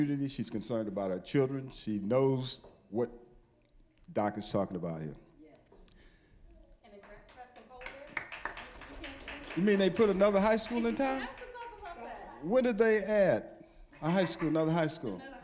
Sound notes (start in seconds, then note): 7.0 scattered applause